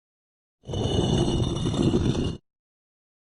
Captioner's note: stone sliding sound effect